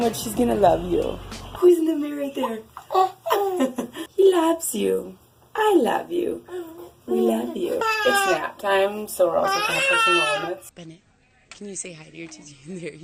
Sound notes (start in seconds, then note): 2.8 baby coos; 9.6 baby cries